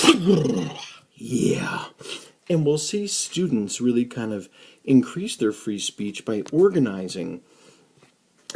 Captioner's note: sniff